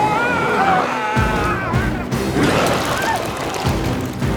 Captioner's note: intense music; biker screams